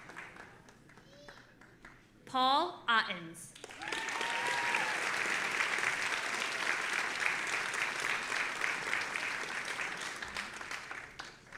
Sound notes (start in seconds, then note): 3.6 audience applauding and cheering